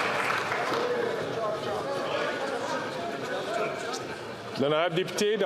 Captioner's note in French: applaudissements